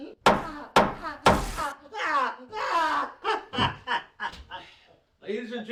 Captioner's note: weapon banging